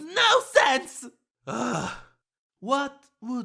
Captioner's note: yang sighs